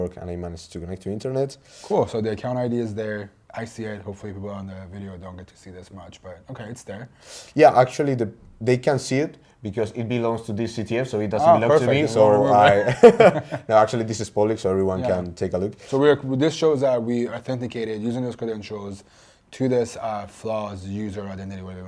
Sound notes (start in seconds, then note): 11.5 laughs